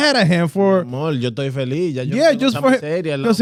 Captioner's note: speaking In Foreign Language